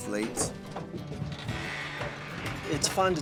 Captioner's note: door creaks